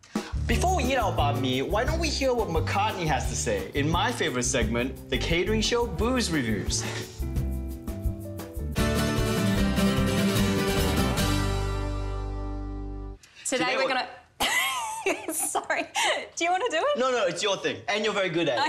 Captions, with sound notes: - Before we eat our bahn mi, why don't we hear what McCartney has to say in my favourite segment, the Katering Show Booze Revooze. (western guitar music) - Today we're going to... - Today we're going to... (laughing) - Sorry, do you want to do it? - No no, it's your thing, and you're very good at it.